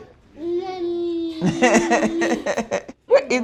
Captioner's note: laughing